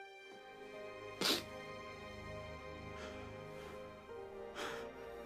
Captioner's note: somber music continues; Radovan sniffles